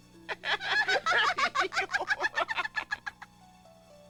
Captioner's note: laughing